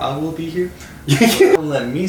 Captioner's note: laughs